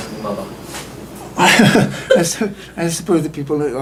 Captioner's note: laughter